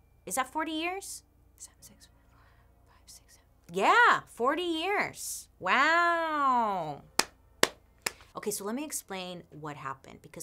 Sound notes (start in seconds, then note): 8.0 claps